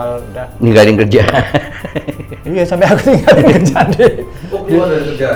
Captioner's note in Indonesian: tertawa